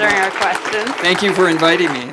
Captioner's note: audience applauding